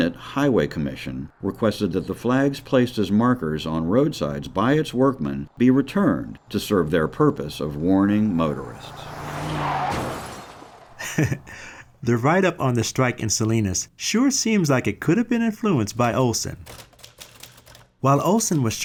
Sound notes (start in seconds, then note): 11.0 short laugh